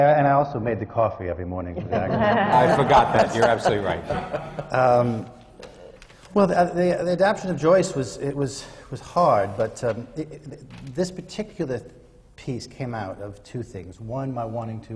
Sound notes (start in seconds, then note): 1.7 laughter